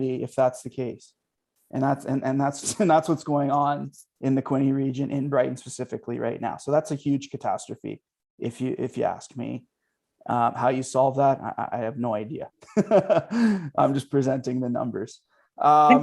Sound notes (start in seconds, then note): 12.7 laughing